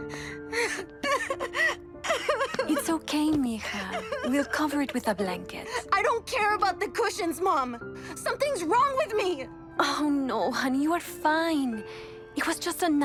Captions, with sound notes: [soft music] [Mischa cries] It's OK, mija . We'll cover it with a blanket. I don't care about the cushions, Mom, something's wrong with me!